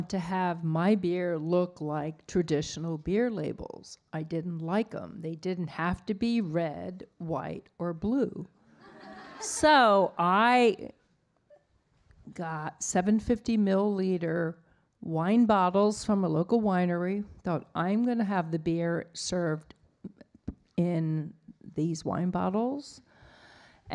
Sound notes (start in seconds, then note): 8.8 audience laughing